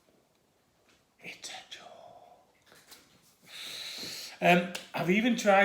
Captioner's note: whispers